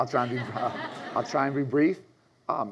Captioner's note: audience laughs